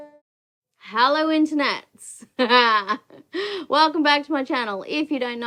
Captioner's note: chuckles